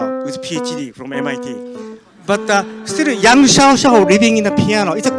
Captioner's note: audience laughs